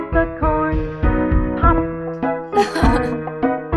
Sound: chuckling

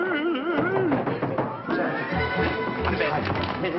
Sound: humming; knocking

